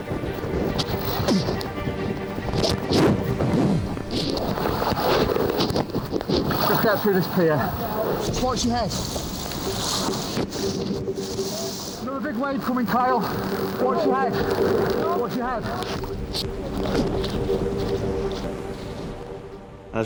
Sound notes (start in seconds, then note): 0.1 intense music; 2.3 rescuers thudding; 2.3 water splashing; 9.8 intense music; 9.8 water splashing; 16.7 intense music; 16.7 water whooshing